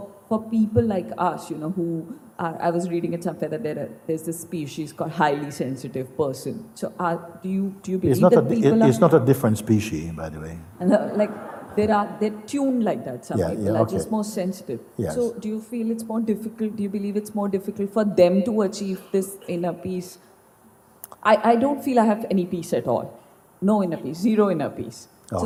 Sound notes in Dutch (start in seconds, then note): 11.0 gelach